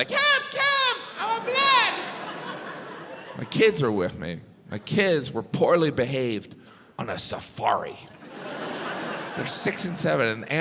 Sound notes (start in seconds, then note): 8.2 audience laughs